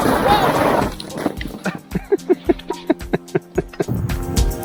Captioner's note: laughs